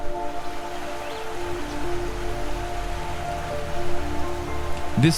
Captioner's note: waterfall whooshing